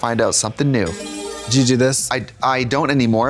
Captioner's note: bright chime